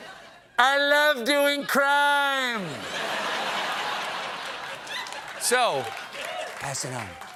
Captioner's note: laughter